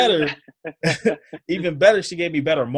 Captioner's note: laughs